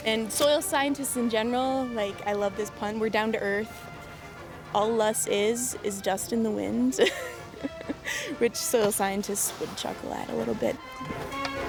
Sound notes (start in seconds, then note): 7.0 laughing